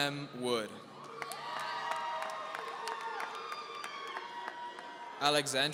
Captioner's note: audience cheering